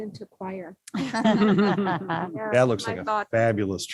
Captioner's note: all laugh